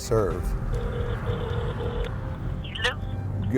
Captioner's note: phone ringing